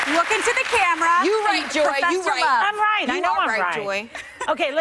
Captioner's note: applause